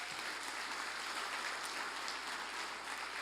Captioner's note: applause